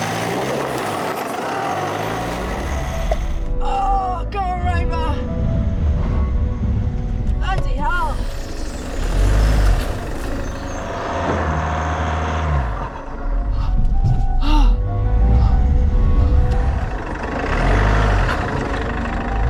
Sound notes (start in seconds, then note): 0.0 revving; 0.0 tyres spinning; 7.8 revving; 14.4 huffing & puffing